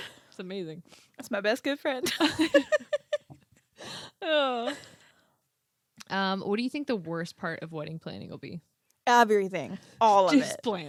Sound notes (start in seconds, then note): 2.0 both laughing